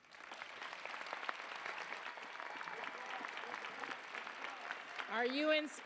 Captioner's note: applause, cheers